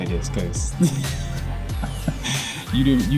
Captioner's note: laughing